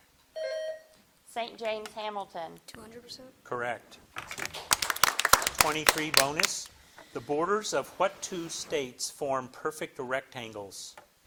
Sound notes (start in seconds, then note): 0.3 bell dings; 4.1 audience applauding